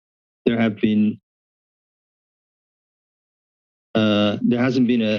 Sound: pause

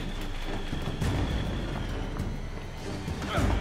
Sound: footsteps

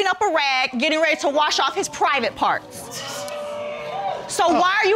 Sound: audience exclaims

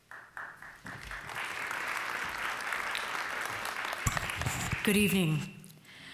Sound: applause

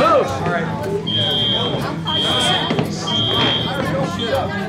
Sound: chatter

